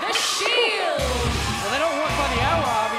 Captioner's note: bell ringing